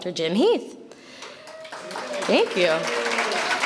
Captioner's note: audience applauds